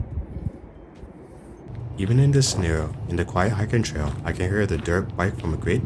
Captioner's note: dirtbike driving